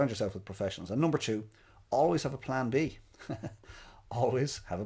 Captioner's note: laughs